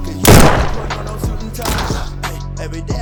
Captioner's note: gun shoots